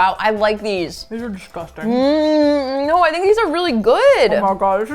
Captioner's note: moans